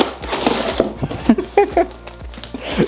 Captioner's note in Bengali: হাসি